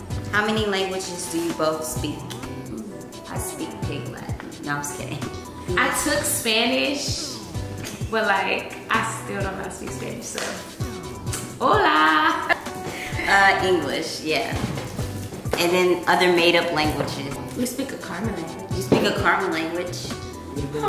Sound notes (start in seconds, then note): 12.1 laugh